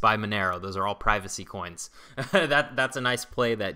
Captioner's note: laughs